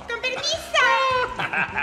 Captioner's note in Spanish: Ríe